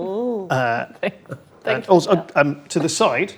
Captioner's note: mumbles